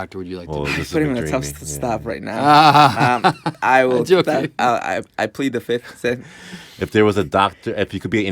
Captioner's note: laughter